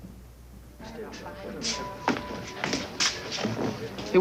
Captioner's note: restaurant din